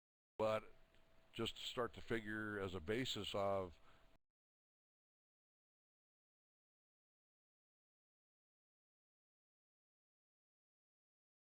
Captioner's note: audio drops